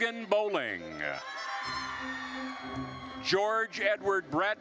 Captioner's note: attendees cheering